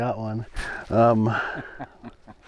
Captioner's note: laughing